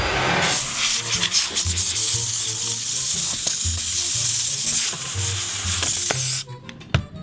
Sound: air spray hissing

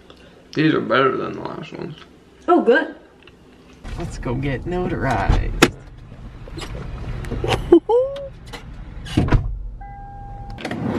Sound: laughs

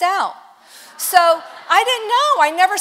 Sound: congregation laughs

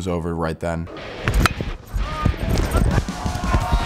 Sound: crack; crowd

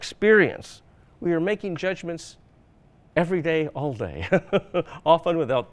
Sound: laughs

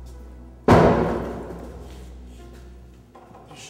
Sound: banging

